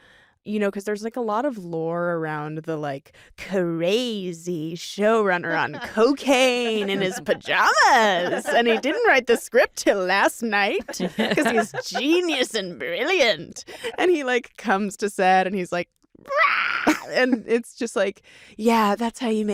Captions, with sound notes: 'Cause there's a lot of lore around the crazy showrunner on cocaine in his pajamas, and he didn't write the script 'til last night 'cause he's genius and brilliant. And he comes to set and he's like... (SCREAMS) And it's just like, "Yeah, that's how you make